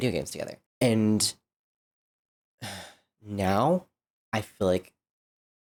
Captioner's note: sigh